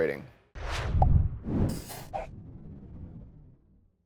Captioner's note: whooshing